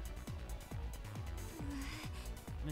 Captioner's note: sniff